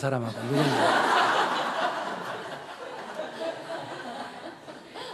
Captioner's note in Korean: 청중 웃음